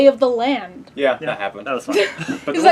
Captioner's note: laugh